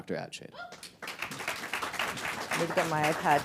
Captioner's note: audience applause